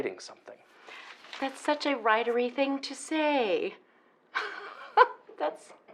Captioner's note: laughs